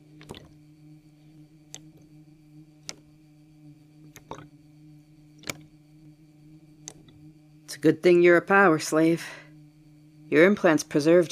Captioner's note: water sounds